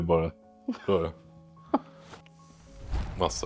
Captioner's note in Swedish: Skratt